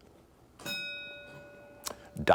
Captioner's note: bell dinging